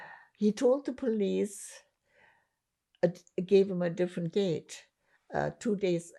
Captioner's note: none